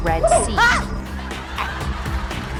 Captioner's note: scary noise